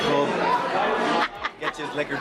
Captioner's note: laughing